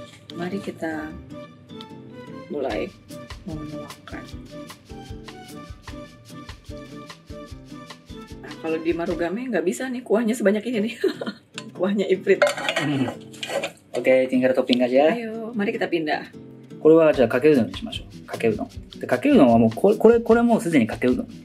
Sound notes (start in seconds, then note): 11.1 laughs; 12.8 laughs